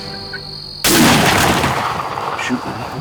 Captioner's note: gunshot